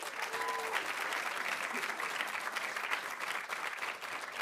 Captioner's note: audience applauding